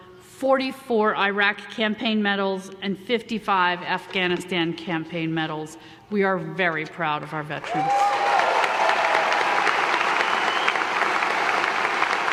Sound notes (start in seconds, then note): 7.6 audience applause